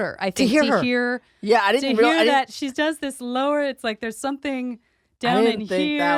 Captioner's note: lower pitch